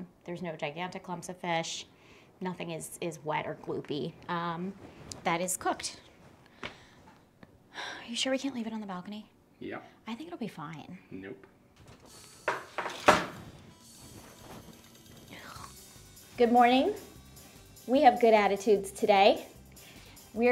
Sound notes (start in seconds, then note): 12.0 quiet upbeat music; 15.3 makes noise of disdain